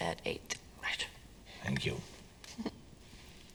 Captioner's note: Jane chuckles